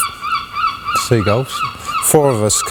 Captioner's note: seagulls